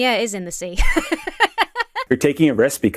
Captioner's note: laughs